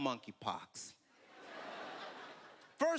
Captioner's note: laughter